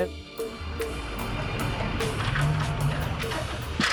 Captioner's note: ladder rattling